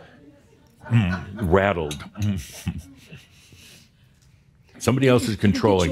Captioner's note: chuckles